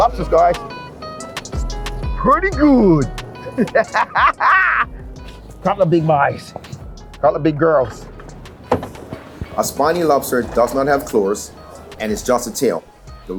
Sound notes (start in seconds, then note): 1.3 energetic music; 4.7 laughs